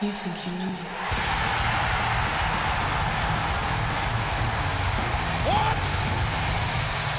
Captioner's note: crowd cheering; energetic rock music